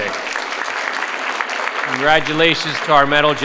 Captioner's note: participants applaud